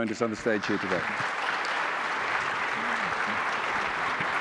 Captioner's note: applause